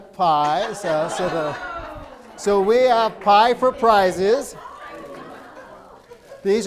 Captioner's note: laughing